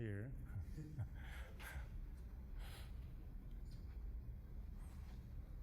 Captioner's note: laughing